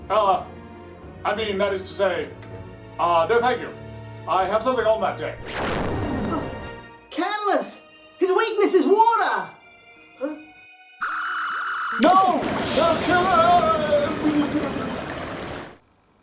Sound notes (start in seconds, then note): 5.4 booming SFX; 12.0 water rushing